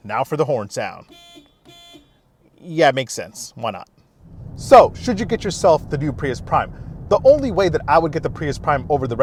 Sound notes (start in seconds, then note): 1.0 horn honks